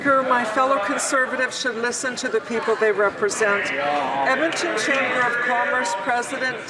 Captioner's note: some Applause